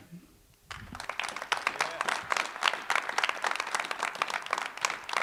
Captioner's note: cheering, applause